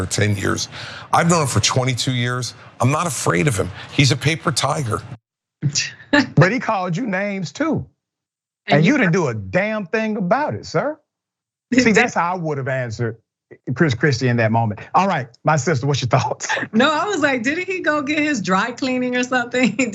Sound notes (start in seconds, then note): 6.2 laugh; 15.6 laugh; 19.7 laugh